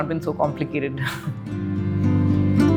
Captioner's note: chuckles